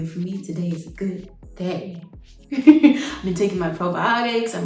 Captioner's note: laughs